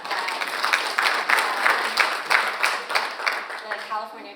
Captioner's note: audience applauds